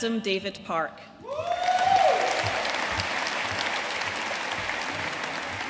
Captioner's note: audience cheering and applauding